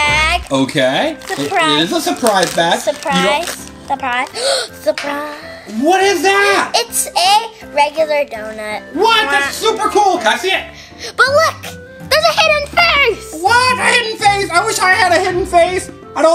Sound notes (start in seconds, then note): 4.3 gasp